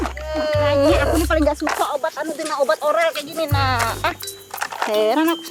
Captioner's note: in foreign language